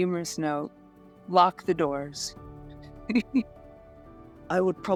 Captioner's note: laughs